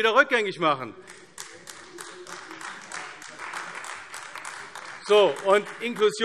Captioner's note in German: Beifall AfD